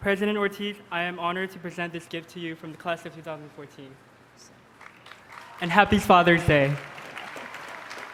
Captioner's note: applause